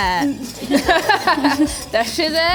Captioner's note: laughing